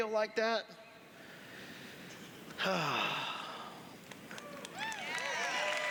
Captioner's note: sighs; applause